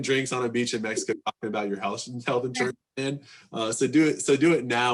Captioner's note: faintly speaking